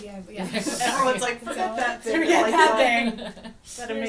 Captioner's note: laughs